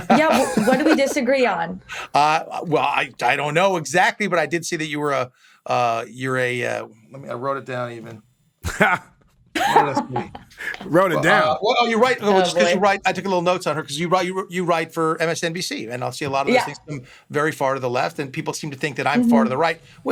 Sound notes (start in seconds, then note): 8.6 chuckles